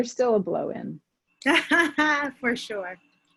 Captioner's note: laughing